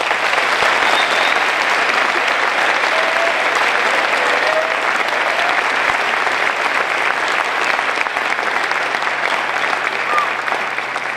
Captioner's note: applause